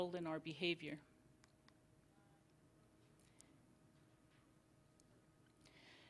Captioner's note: silence